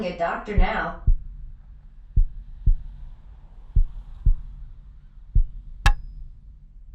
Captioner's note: heart beating slowly